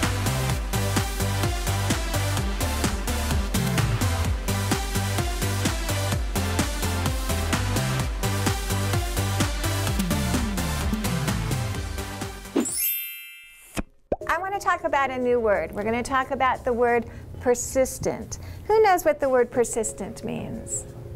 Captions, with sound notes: (electronic bells ringing) I wanna talk about a new word. We're gonna talk about the word persistent. Who knows what the word persistent means?